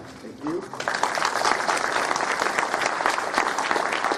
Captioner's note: applause